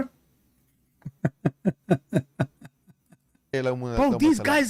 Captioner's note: Ketawa